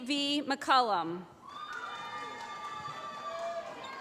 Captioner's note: applause